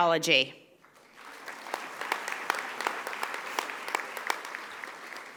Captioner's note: audience applauding